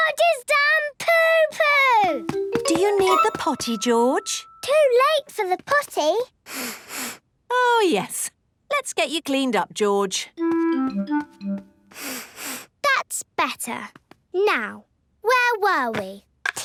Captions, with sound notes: George has done poo-poo! - Do you need the potty, George? - Too late for the potty! (sniffs) - Oh, yes. Let's get you cleaned up, George. (sniffs) - That's better. Now... where were we?